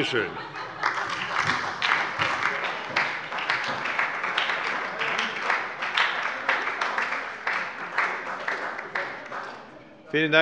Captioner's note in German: Heiterkeit und Beifall bei der SPD